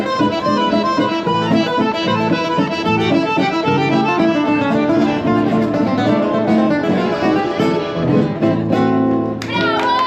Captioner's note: applause